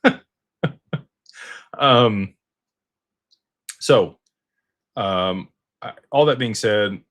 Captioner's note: laughter